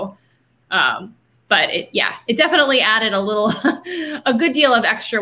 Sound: laughing

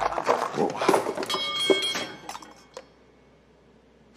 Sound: clanging

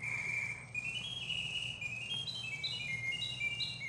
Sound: bird singing

